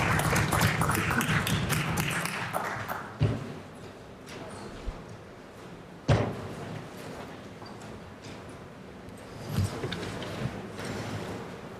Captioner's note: applause